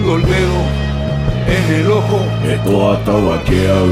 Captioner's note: non-english speech